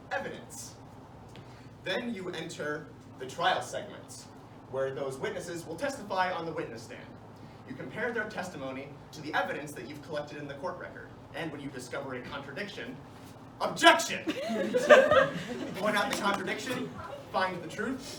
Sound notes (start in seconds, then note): 14.2 laughter